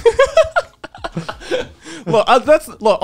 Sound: laughing

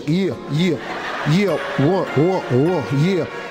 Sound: audience laughing

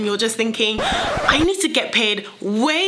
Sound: record scratches

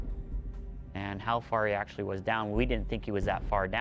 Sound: voiceover

